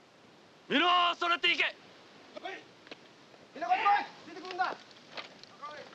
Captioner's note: shouting in Japanese